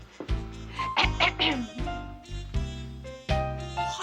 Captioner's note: clears throat